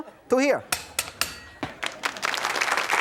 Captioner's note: knife clattering; audience applauding